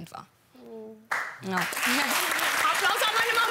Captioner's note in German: Applaus